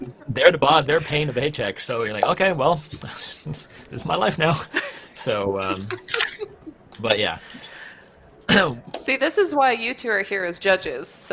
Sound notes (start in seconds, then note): 5.6 laughter